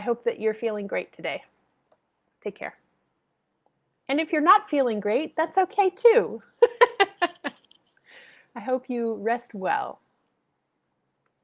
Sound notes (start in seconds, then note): 6.6 laughs